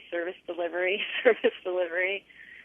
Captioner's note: laughter